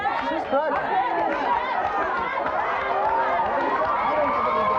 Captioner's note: audience yells